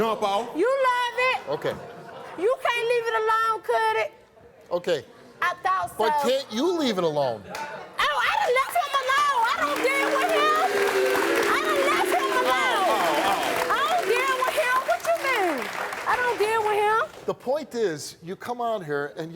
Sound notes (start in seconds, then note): 8.0 audience clapping; 9.6 audience booing